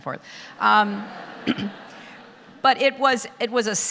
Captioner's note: audience laughter